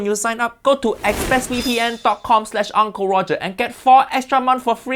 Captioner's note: air whooshing; QR code chiming